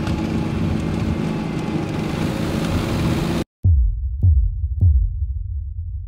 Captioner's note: engine humming continues